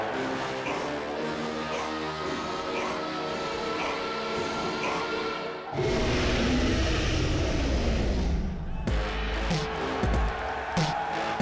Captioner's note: crowd cheering